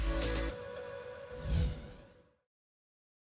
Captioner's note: whoosh